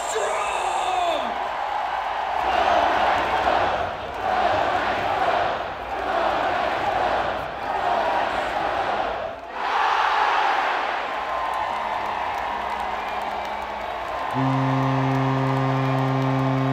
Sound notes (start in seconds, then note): 2.4 crowd chanting; 12.7 cheers and applause